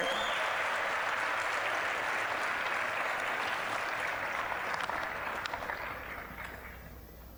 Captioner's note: applause